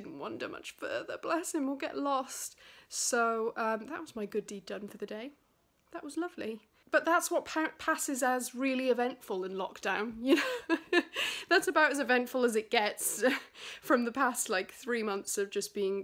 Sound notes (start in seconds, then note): 10.3 laughs